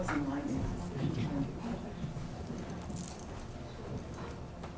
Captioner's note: chatter